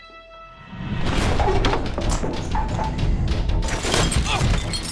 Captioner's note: flipping over table; gunshot